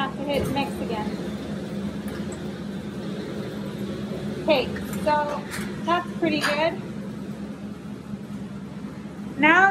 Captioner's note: mixing sounds